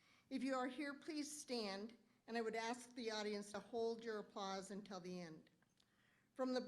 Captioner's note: none